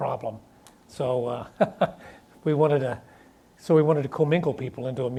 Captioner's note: laughs